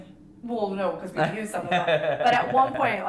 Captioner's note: laughing